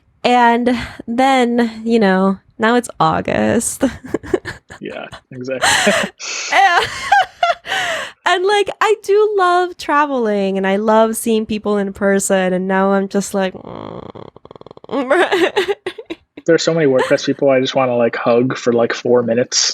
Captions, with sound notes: And then now it's August. (laughing) And I do love traveling and I love seeing people in person. And now I'm just like, (humming) (laughing) - There are so many WordPress people I wanna hug for four minutes.